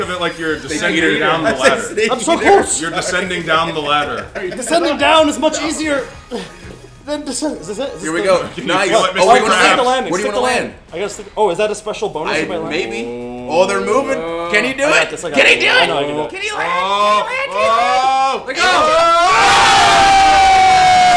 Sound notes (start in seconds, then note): 12.7 laugh